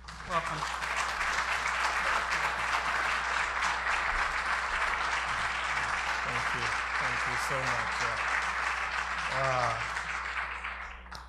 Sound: applause

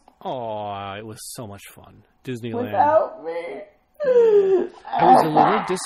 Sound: gasps

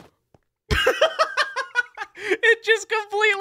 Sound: laughing

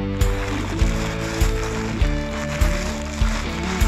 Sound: chips crunching

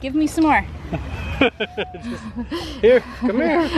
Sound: laughs

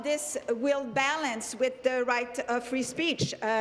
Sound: speaking in French

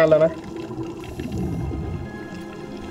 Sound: exhale

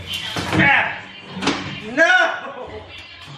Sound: laughs

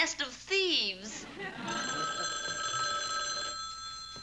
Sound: phone rings

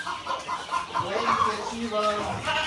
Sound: Arabic

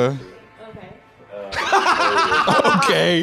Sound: laughing

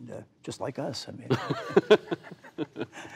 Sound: laughter

